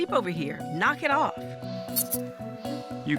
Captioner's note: squeaking